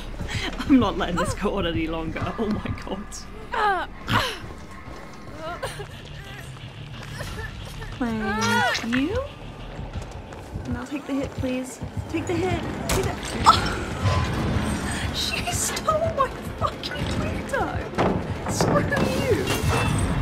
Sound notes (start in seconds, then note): 3.4 laughs; 13.9 gasp